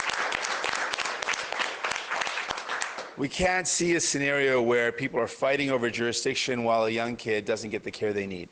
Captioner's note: applause